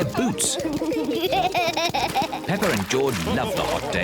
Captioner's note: both giggle